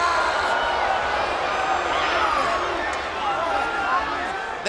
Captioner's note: crowd jeering